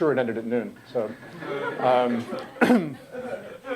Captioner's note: laughter